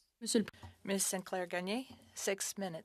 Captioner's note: speaking French